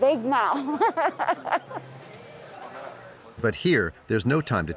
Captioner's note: giggling